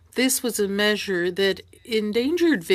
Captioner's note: speaking french